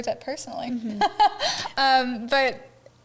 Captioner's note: chuckles